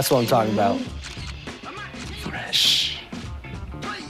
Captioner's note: phone camera clicks